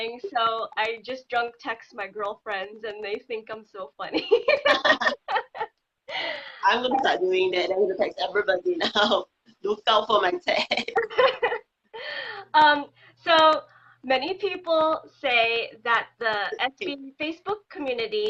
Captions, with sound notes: or anything so I just drunk text my girlfriends. And they think I'm so funny. (laughing) - I'm going to start doing that. I'm gonna text everybody now from my cell phone. - So many people say that the SB Facebook community